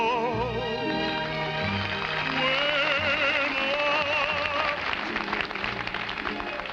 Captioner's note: audience applauding